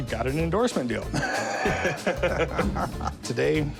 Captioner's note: laughing